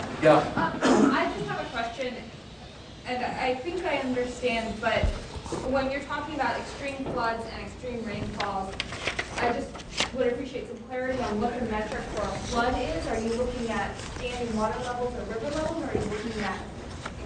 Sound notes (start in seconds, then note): 0.6 laughter